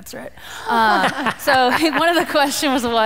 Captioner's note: laughter